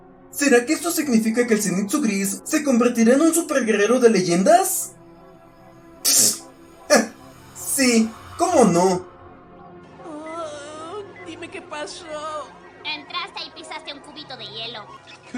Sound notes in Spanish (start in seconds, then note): 6.9 risa absurda